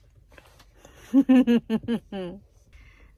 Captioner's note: laughs gleefully with mouth full of ice cream